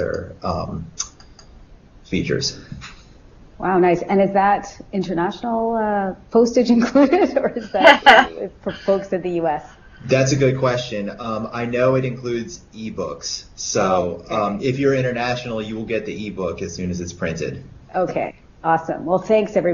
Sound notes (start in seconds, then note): 9.7 laughs